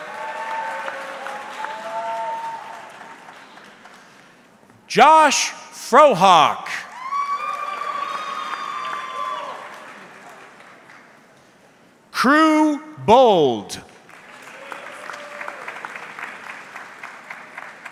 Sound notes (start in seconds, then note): 0.0 audience clapping; 7.4 audience cheering; 14.0 audience clapping